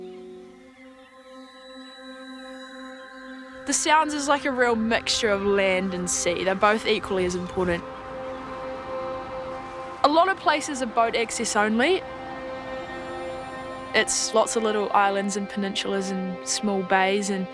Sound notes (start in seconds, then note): 1.0 birds chirping